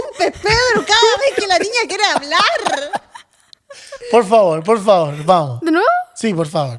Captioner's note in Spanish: risas